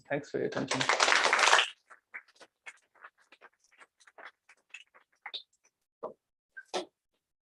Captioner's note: applause